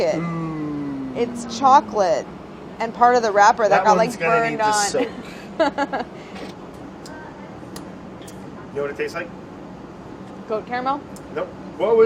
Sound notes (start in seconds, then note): 4.7 laughs